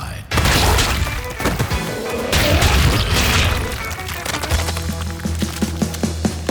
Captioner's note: energetic music continues; goo splatters